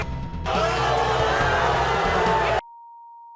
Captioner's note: crowd booing